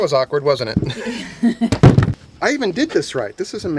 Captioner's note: laughing